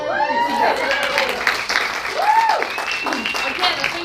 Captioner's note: audience cheers